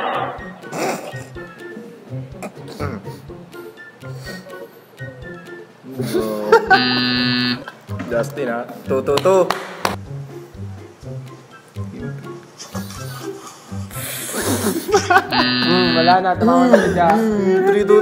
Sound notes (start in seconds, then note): 4.2 sniffle; 9.1 seal claps